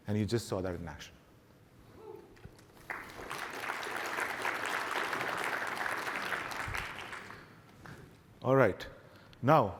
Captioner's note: applause